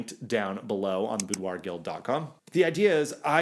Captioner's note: clicking